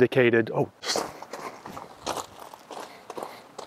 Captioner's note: footsteps